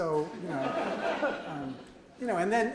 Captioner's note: audience laughs